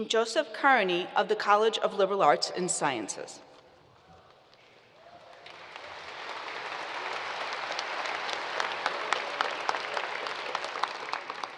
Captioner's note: applause